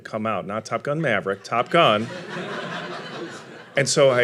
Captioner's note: audience laughing